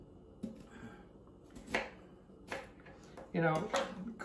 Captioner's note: knife slices